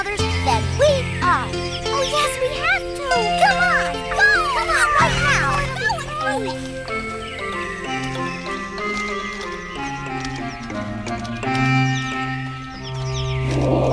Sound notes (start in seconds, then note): 4.3 murmuring; 7.6 upbeat music